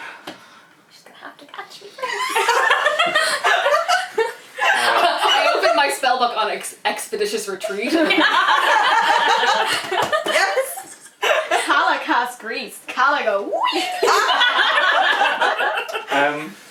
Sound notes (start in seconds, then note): 10.4 laughter